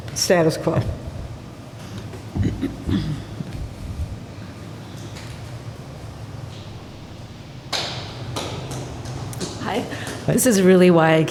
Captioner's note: applause